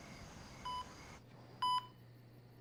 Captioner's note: beeping